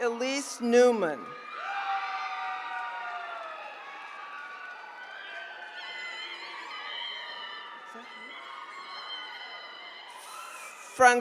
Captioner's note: applause